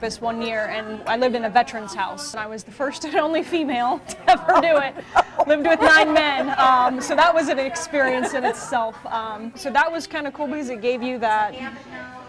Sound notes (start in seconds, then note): 4.0 laughter